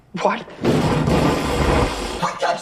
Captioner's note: loud explosion